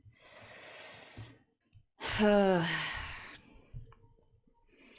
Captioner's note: big sigh